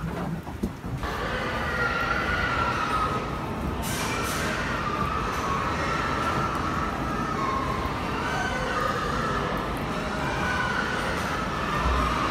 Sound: screaming and crying from the pigs

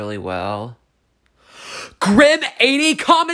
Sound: gasp

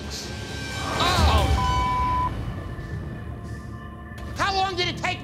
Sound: beep

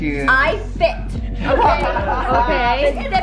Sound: laughing

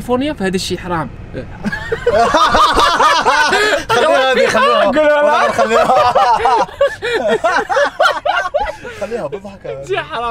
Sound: laugter

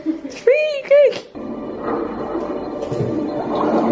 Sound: giggling; gurgling sounds in video game

